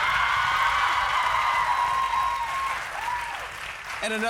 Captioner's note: cheers and applause